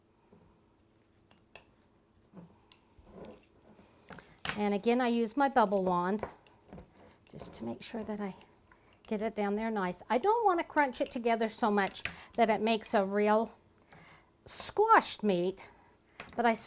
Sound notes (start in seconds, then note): none